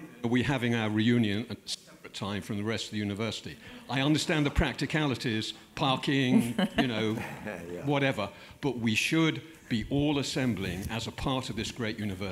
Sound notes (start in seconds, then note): 6.3 laugh